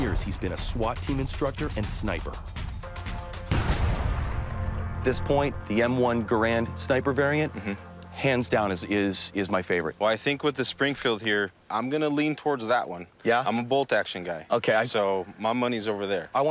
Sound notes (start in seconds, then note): 3.4 gun banging